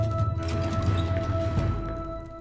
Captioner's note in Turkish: Kapı Açılma Sesi